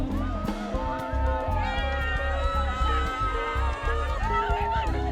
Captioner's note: students cheering and screaming